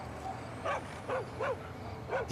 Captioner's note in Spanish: ladridos